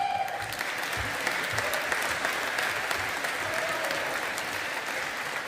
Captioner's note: audience applauding